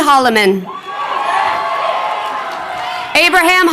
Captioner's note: crowd cheering